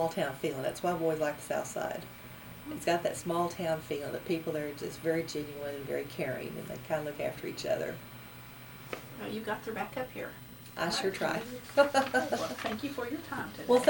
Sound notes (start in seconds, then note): 11.2 laughs